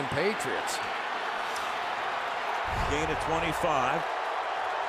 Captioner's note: cheering